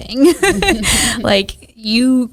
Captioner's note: everyone laughs